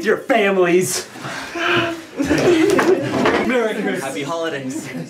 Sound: laughter

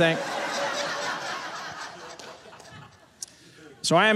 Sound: audience laughing

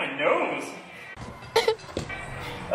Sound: caughs

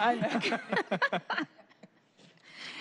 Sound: laughter

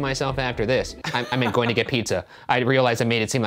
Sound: all laughing

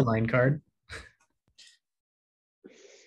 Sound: laughs

